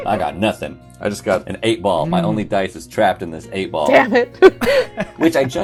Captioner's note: laughs